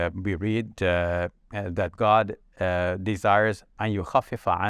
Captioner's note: speaks verse in Arabic